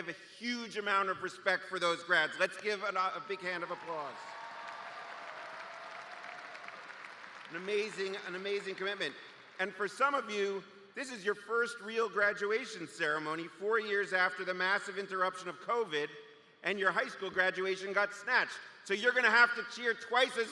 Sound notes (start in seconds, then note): 6.6 cheers and applause